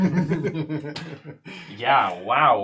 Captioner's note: all laugh